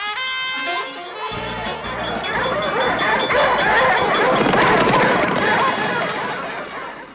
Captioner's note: fanfare playing; dogs barking